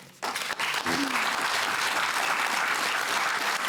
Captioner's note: applause